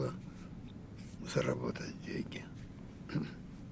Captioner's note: clears throat